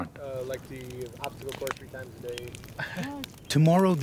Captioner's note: voiceover